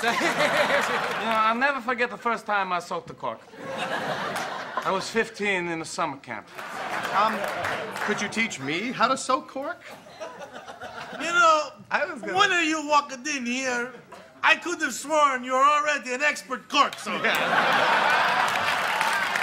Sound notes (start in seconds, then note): 0.0 Luigi and audience laugh; 3.5 audience laughs; 6.4 audience laughs and claps; 10.4 audience member chuckles; 16.9 audience laughs and applauds